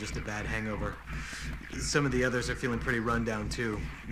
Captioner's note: inhales deeply